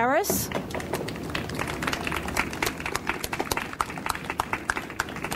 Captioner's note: audience applauds